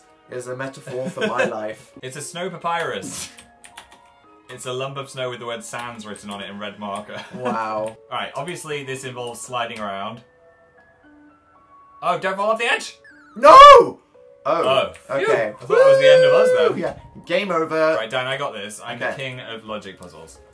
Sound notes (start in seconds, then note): 1.0 laughs; 7.2 laughs